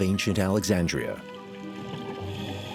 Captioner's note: bubbles